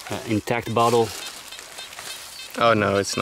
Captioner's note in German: Detektor piept